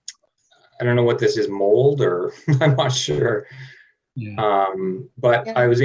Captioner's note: laughing